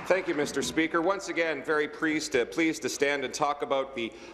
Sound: applause

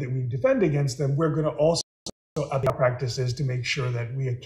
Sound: audio glitches

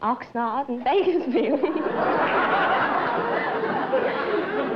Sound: laughter

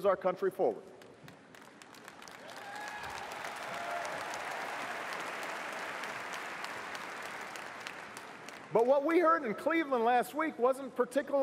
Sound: cheers & applause

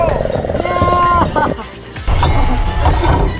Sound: laughs; upbeat music

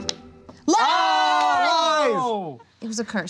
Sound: shouting

